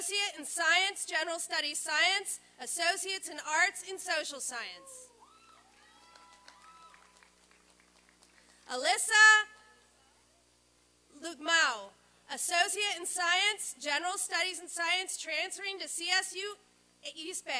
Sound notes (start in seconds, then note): 5.3 applause and cheering